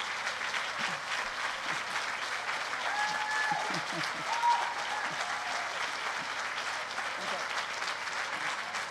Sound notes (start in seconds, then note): 3.6 cheering